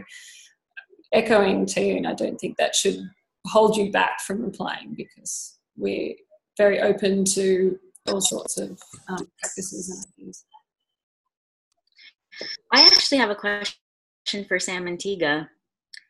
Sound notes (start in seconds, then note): 10.1 audio cuts out